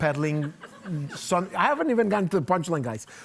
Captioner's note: audience laughing